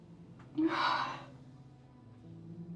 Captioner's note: Rebecca sobs